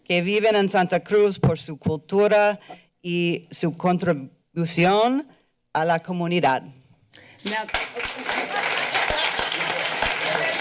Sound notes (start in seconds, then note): 0.3 foreign language; 7.2 applause